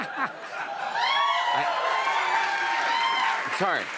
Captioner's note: laughs; cheers and applause